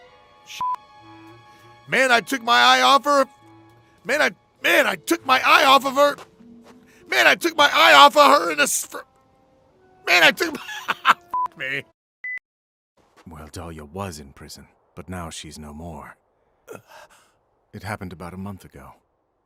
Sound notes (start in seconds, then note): 16.7 gasp